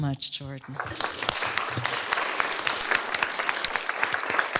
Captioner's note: applause